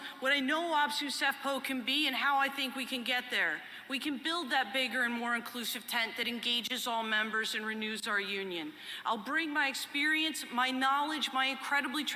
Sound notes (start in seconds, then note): none